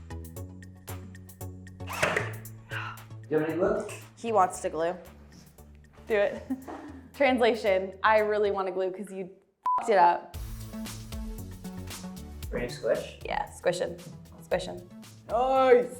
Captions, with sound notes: - Do you want me to glue? - He wants to glue, do it. Translation, I really wanna glue 'cause you (beep) it up. - Ready to squish. - Yeah, squishing, squishing.